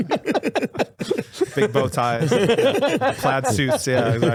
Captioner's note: laughing